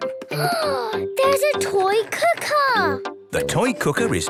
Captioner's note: gasps